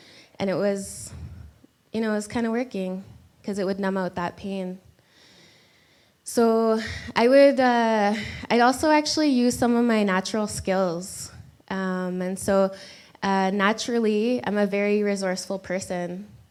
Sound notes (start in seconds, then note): none